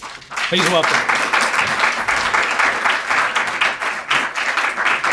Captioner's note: audience applauding